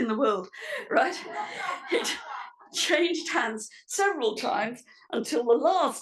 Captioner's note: laugh